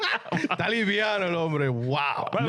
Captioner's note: speaking In Foreign Language